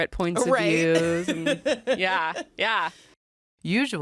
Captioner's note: laughs